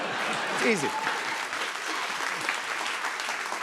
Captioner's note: applause